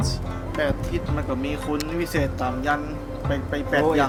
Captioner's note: speaking in thai